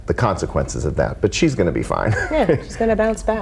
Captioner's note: laughs